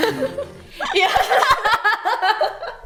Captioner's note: laughs